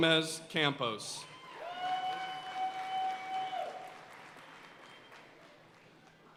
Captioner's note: audience cheering and applauding